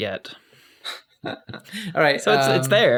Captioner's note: laughs